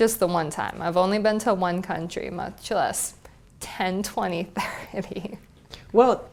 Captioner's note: laugh